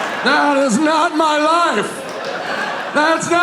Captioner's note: audience laughing